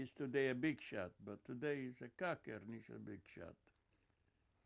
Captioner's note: yiddish